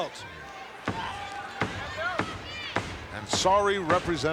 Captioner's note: foot thudding